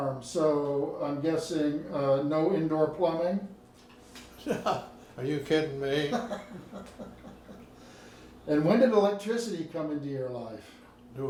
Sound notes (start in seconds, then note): 5.9 laughing